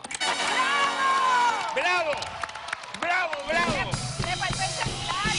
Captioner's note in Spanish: Aplausos